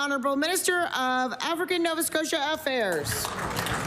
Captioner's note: applause